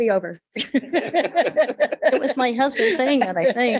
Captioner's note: light laughter